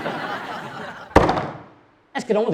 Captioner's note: audience laughing; hand thuds